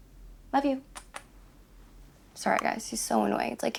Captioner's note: kisses air